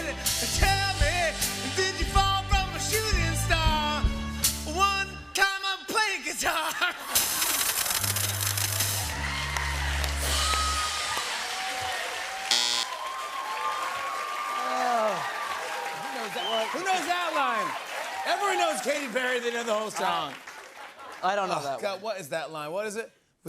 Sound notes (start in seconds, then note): 6.4 sad horn; 6.4 laughs; 6.4 laughter and applause; 12.4 buzzer; 13.0 cheering